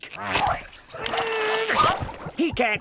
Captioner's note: grunting